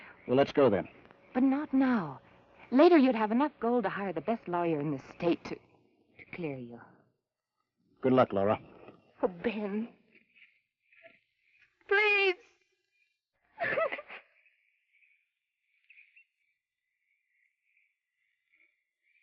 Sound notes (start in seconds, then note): 13.6 sobs